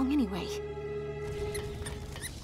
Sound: squeaking

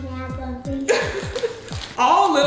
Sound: laughs

